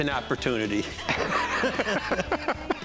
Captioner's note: laughs